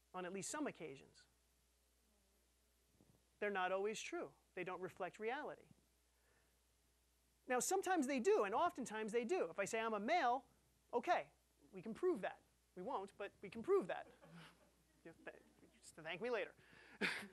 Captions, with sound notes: On at least some occasions? They're not always true. They don't reflect reality. Now, sometimes they do, and, oftentimes, they do. If I say I'm a male, okay. We can prove that. We won't, but we can prove that. (audience laughing) Thank me later.